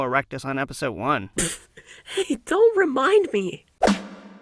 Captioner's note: spit-takes